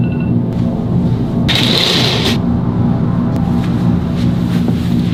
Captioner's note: blinds opening